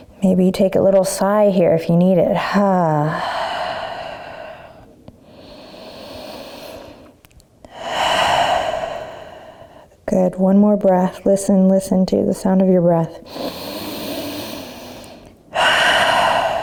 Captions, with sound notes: Maybe you take a little sigh here if you need it. (sighs) (inhaling and exhaling) Good, one more breath. Listen, listen to the sound of your breath. (inhaling and exhaling)